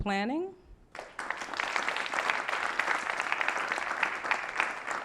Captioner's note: applause